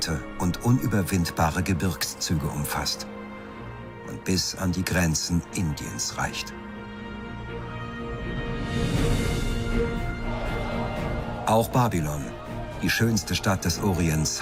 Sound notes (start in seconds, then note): 8.3 triumphant music; 10.0 screaming